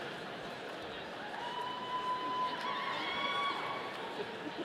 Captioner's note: audience cheering